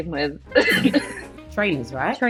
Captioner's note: laughing